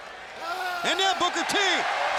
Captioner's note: Booker T yelling